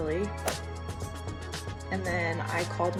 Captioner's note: text whooshes and clicks